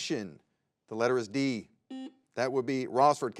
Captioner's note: button blips